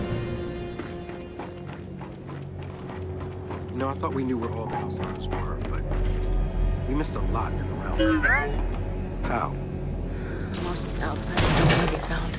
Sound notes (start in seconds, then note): 0.0 intense music; 8.0 alarm beeping